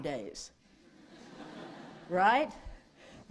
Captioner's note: laughter